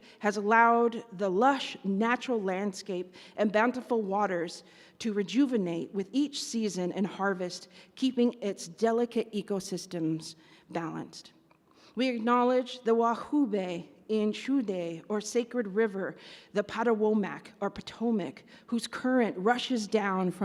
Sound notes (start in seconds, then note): 13.3 speaks in Native language; 16.2 speaks in Native language